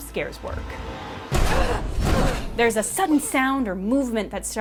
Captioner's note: the door slams open as Ripley grunts in fear